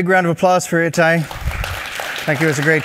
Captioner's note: applause